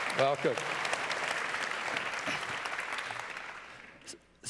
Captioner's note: applause